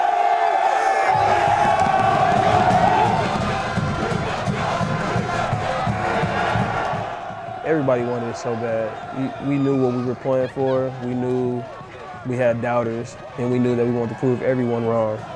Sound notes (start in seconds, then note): 3.0 cheering; 5.3 band playing